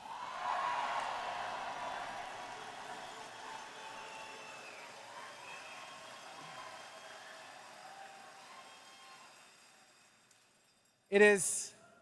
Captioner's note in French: Acclamations et applaudissements